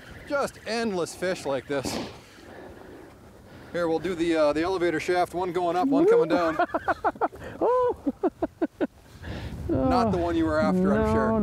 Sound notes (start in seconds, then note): 5.9 chuckles